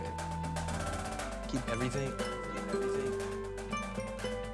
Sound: echoing

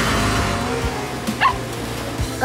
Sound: barking

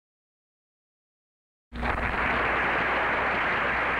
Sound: applause

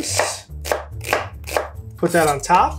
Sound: knife chopping

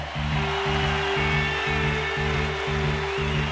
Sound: crowd cheers

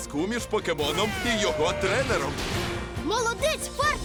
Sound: yells

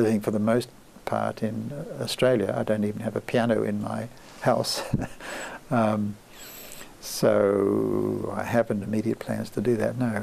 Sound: laughs

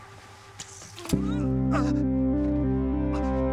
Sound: groaning

